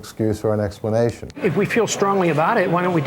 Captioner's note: Hannity interrupts